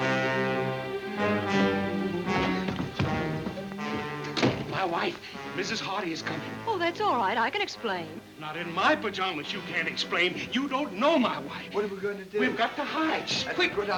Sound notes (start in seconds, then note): 0.0 dramatic music; 4.5 door thuds